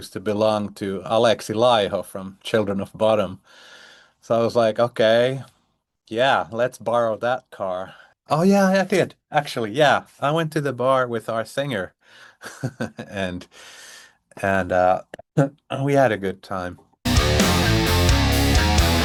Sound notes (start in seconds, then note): 12.4 chuckles; 17.0 rock music